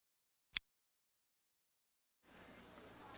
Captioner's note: click